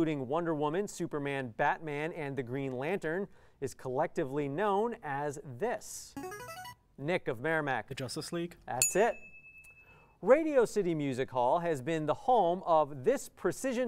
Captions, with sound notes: Wonder Woman, Superman, Batman, and the Green Lantern is collectively known as this. [player buzzer] Nick of Merrimack. The Justice League. [ding] That's it. Radio City Music Hall has been the home of this precision